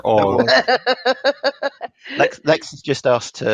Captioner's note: laughs